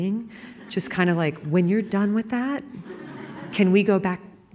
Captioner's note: laughter